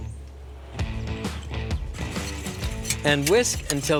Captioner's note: whisking